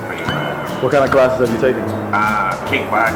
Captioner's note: voiceover